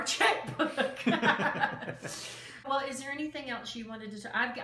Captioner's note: both laughs